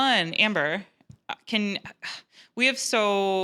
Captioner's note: stutters